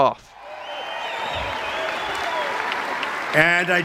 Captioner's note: <i>Cheering</i>